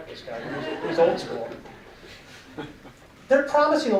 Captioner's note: audience laughing